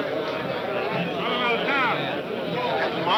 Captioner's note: man shouting indistinctly